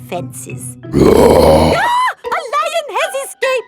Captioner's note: roars; screams